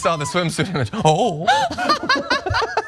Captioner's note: laugh